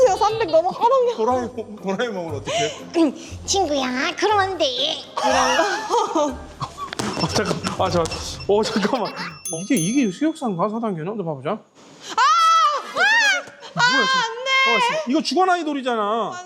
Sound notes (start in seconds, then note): 12.2 screams at first glance